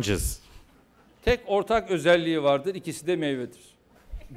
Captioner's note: non-english speech